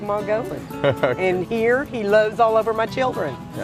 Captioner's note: laughs